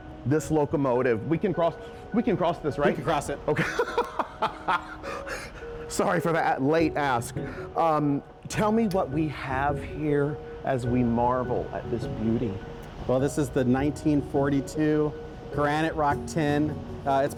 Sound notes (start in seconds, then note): 3.5 laughing